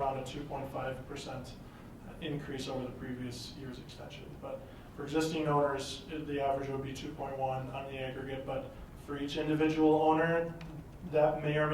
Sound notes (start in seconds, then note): none